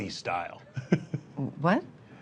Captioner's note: laughter